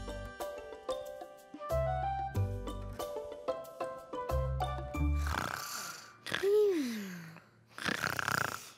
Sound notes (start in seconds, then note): 0.0 light playful music; 5.6 Finny snoring